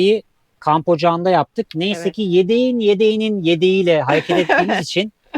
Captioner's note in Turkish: kahkaha